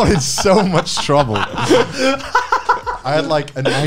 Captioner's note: laughing